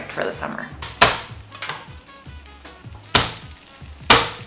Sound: smacking

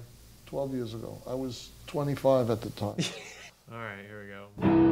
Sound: laughs

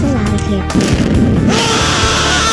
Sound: bang!

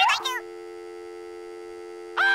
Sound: dial tone

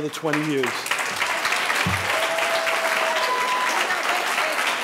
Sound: audience applauding

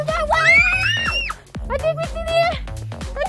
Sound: screaming

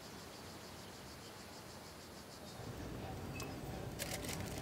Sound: birds chirping

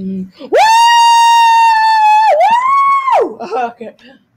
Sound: all screaming

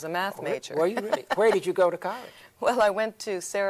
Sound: laughs

